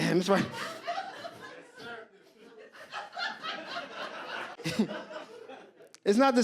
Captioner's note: audience laughs